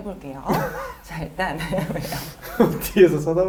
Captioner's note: suddenly laughs